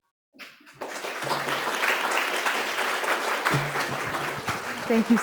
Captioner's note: audience applauding